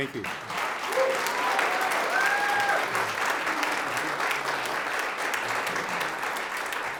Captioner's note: audience applauds; audience cheers